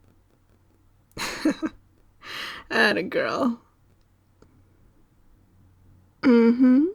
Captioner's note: laugh